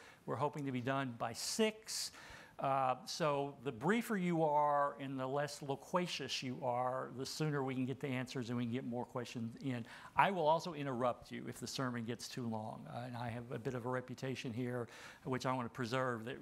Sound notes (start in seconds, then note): none